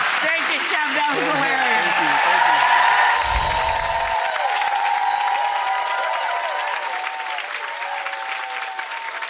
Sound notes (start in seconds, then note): 3.0 audience applause